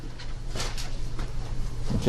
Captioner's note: desk creaking